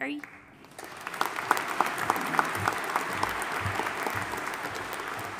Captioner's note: audience applauding